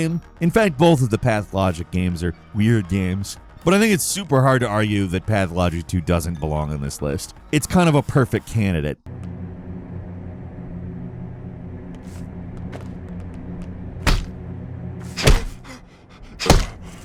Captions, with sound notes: In fact, both of the "Pathologic" games are weird games. But I think it's super hard to argue that "Pathologic 2" doesn't belong on this list. It's a perfect candidate. (fist hitting)